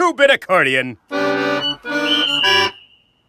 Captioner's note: plays accordion badly; whistle blows